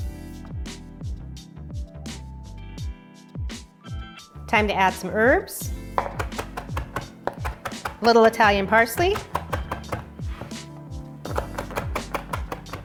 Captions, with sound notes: (light music) time to add some herbs. (chopping) A little Italian parsley.